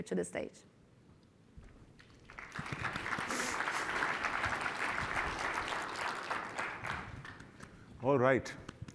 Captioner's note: applause